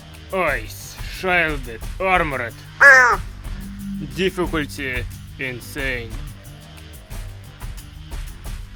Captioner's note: crow cawing